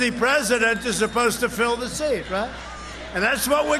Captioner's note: cheering